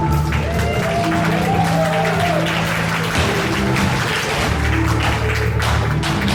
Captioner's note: audience applauds; audience cheers; dancer's feet tapping; intense orchestral music